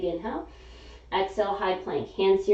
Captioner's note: inhaling